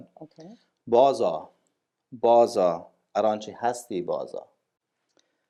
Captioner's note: speaking in Dari